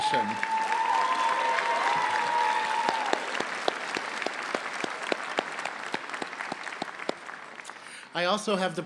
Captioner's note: applause